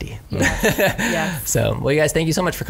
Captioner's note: laughs